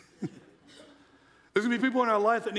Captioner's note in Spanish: se rie ligeramente